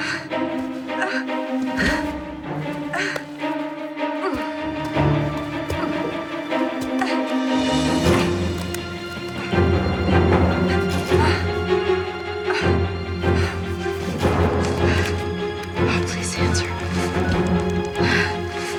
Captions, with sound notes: (heavy breathing) Oh, please answer.